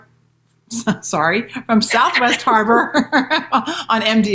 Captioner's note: laughing